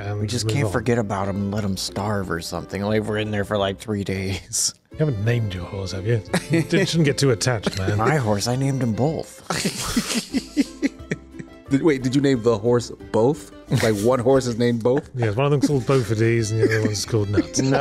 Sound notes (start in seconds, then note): 9.4 laughing